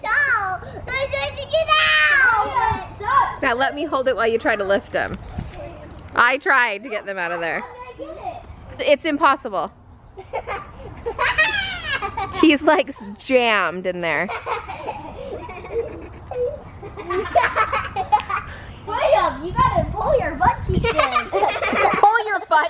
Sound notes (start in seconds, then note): 10.2 laughing; 14.2 laughing